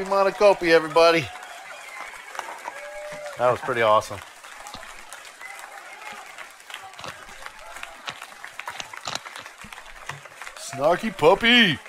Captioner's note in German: Beifall